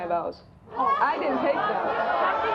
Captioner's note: audience boos